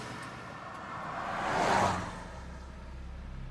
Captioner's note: car passing by revving